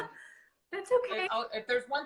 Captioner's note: laughing